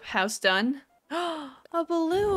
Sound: gasp

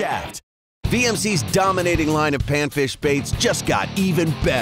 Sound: voiceover

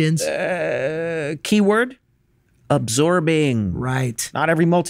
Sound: groans

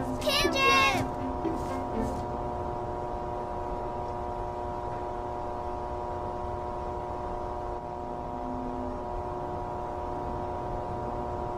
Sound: shouting

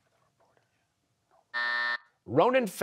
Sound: buzzer

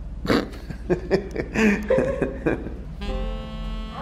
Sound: laughing

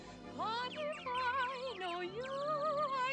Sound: chirping

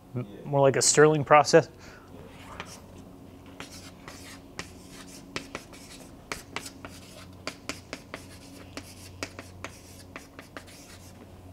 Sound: chalkboard writing

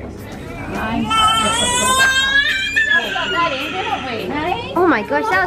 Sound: disco Crying

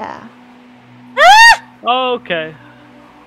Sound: screams randomly

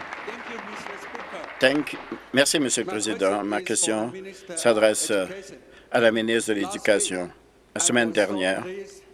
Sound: applause

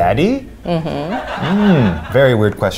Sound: audience laughs

